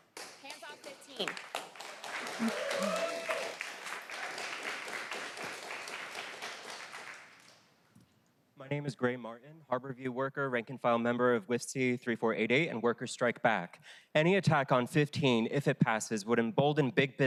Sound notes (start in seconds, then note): 8.6 applause